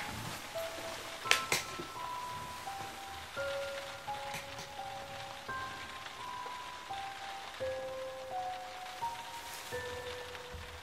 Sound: rain

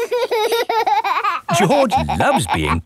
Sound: laughing

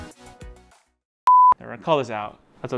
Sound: signal loss beeping

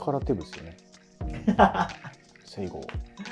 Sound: laughing

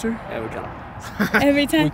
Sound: laughs

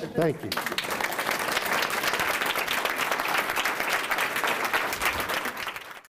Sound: applause

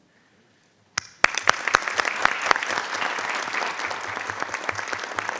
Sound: audience applauding

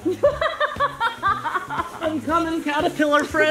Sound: laughing

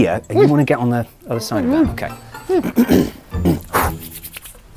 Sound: clears throat, blows, hands rub

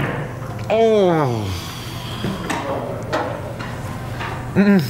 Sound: grunts

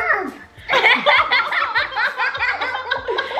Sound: laughs

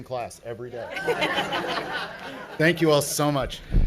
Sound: laughing

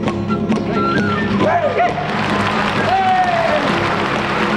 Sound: audience applauds

